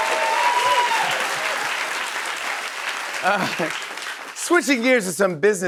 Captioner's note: chuckles